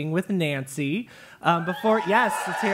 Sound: applause

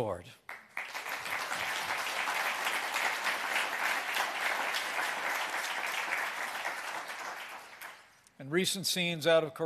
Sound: applause

